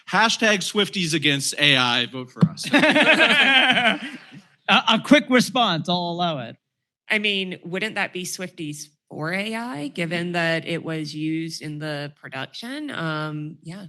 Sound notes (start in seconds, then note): 2.6 laughter